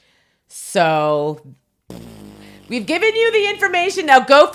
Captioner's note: blows raspberry